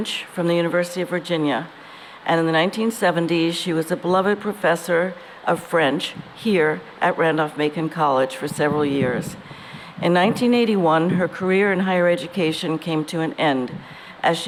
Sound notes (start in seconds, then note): none